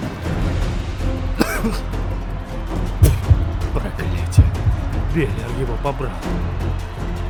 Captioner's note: coughs